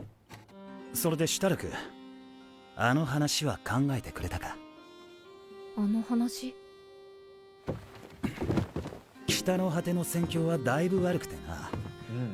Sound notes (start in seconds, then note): 2.2 speaking Japanese